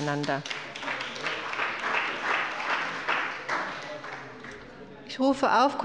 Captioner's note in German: Beifall bei der CDU und der SPD